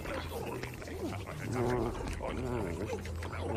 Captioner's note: grumbling